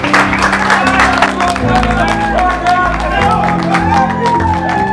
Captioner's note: man faintly shouts